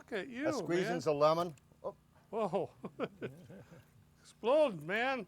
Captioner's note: laughter